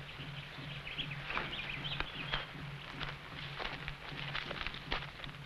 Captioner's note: birds chirping